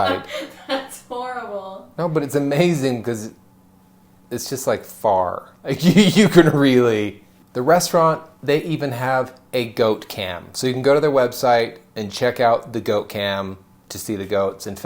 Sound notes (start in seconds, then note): 0.0 laughing; 5.8 laughing